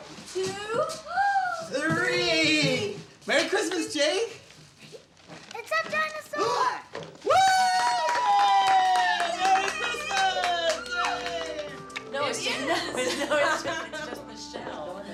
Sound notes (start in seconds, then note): 7.2 cheering; 12.1 people chatting